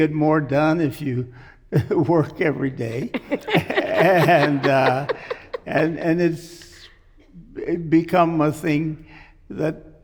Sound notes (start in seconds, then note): 3.0 laughs